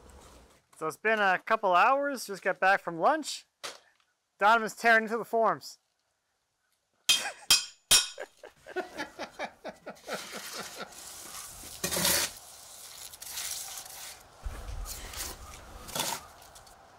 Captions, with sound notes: - So it's been a couple hours just got back from lunch. Don was tearing to the foams. (metal hammering) (tool scraping)